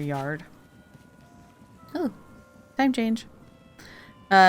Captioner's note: bells ring